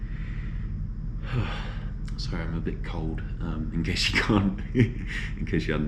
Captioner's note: laughs